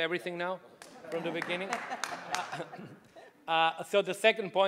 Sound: audience laughing

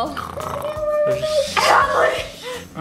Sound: snoring

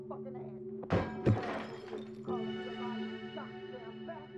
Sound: glass breaks; suspenseful music

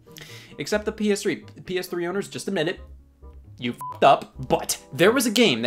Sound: beep

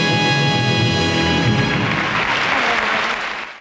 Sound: audience applauds

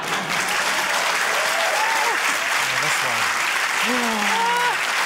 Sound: cheering, applause

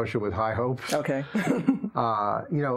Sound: laughs

